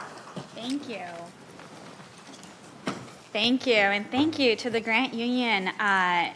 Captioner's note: applauding